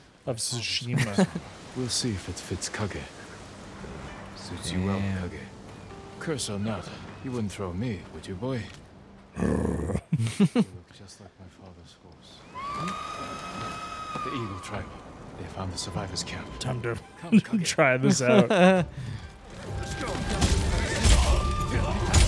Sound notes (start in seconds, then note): 9.4 angry grunting; 10.0 both laughing; 12.3 distant screaming; 19.5 intense music